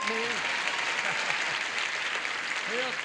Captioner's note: applause; bell